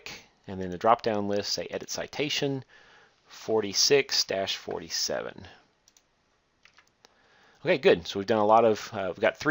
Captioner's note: click